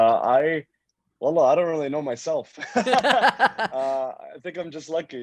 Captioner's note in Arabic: يضحك